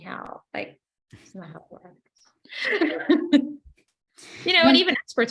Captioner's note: laughs